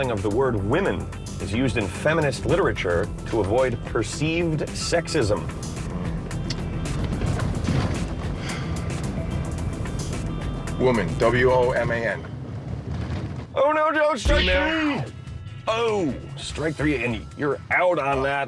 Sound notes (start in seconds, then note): 10.0 sighs